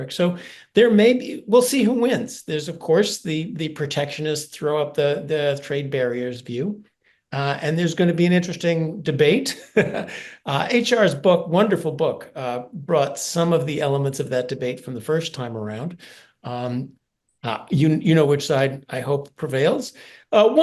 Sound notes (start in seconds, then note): 9.6 laugh